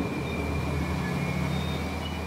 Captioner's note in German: Leises Quietschen